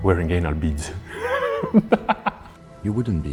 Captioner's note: laughs